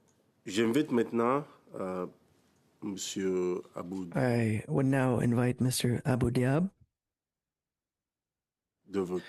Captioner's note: speaking French